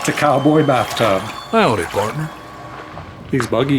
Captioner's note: laughter; sound of water splashing